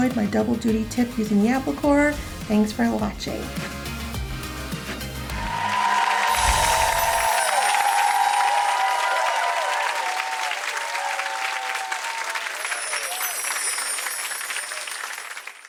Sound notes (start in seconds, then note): 4.0 upbeat music; 5.7 applause and cheering